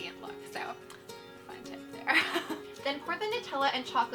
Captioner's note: laughs